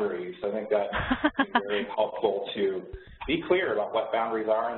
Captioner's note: laughs